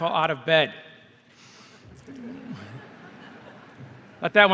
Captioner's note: laughter